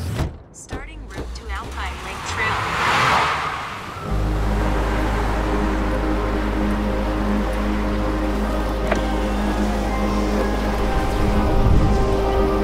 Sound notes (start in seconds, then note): 3.3 car tires screech; 4.3 gentle music